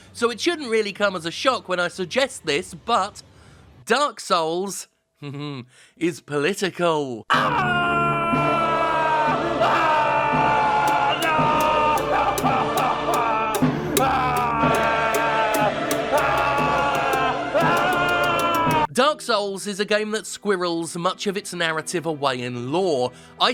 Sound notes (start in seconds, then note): 5.2 chuckling; 7.3 screaming; 10.8 dramatic music